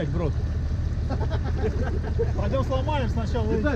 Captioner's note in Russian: смеются